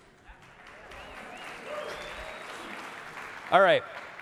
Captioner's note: audience claps and cheers